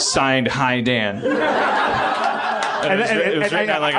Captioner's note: laughs